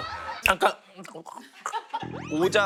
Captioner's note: chewing